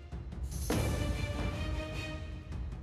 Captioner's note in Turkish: Baston vurma sesi